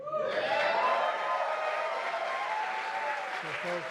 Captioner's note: applause